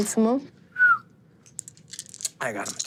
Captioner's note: whistles; dice clinking